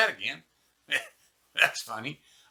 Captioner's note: laughs